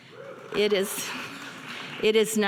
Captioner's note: audience applauding